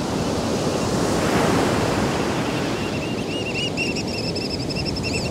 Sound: The sounds of three American Oystercatchers grows louder

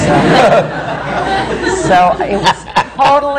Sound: laughter

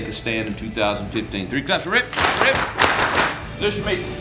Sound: team claps

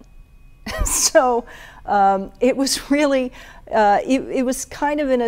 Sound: chuckles

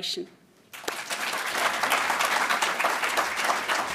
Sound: applause

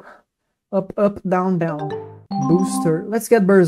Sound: msn sounds in the background lol

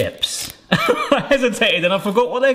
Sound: laughs

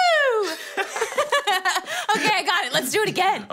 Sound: both chuckling

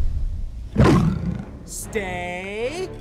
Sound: growl

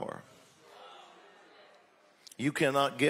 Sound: audience exclaiming

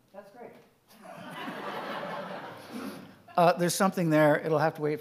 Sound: audience laughing

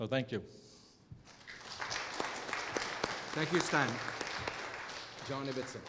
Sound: applause

